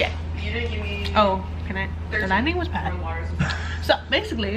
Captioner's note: laughing